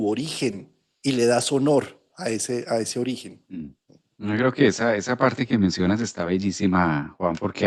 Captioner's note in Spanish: carraspeo